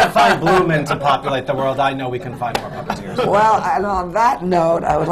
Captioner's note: laughter